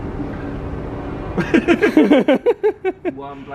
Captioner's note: laughs